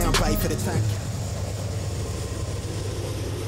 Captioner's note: train